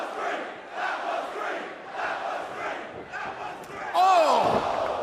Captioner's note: fans chanting